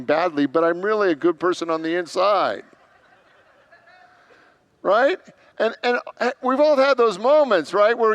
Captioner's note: congregants laugh